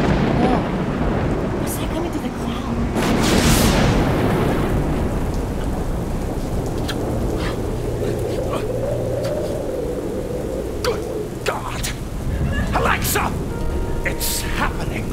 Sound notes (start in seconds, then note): 0.0 thunder rumble; 3.1 lightning